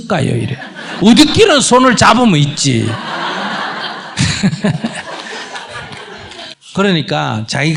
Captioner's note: audience/ Laughter